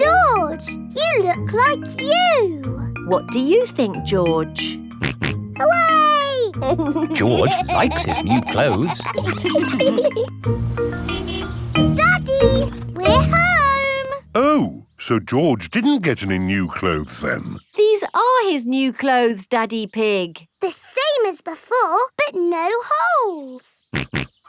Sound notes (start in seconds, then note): 6.6 snorts and laughs; 10.5 horn honks; 24.0 snorts